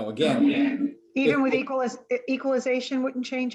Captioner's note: woman Speaking